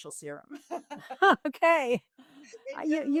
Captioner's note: laughing